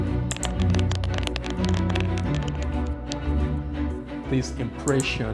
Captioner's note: computer keys clacking